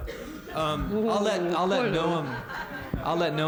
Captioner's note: laughter